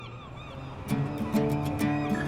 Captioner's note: seagulls cawing